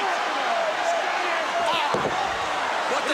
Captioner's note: crowd chatter